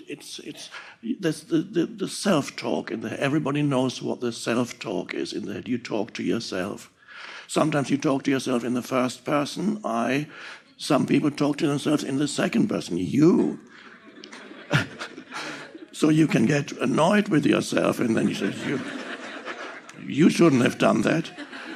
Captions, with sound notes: It's, there's the self-talk in there. Everybody knows what the self-talk is in there. You talk to yourself, sometimes you talk to yourself in the first person, "I," some people talk to themselves in the second person, "You." (audience laughing) (Eckhart chuckling) So you can get annoyed with yourself. And then you say, "You shouldn't have done that."